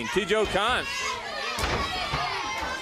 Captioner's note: crowd chatter